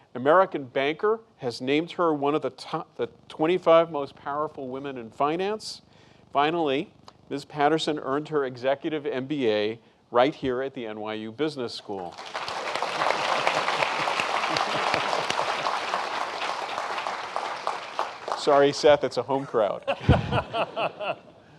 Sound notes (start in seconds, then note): 12.1 applause; 19.3 laughing